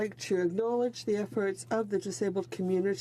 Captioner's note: speaking French